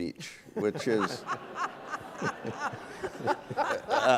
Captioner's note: laughs